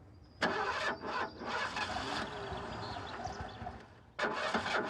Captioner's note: engine sputtering